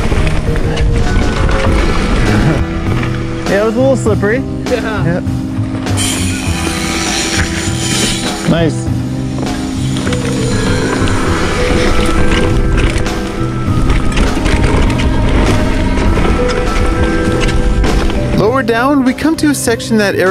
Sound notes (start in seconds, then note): 9.1 pop music; 9.6 whirring; 18.0 narrator voiceover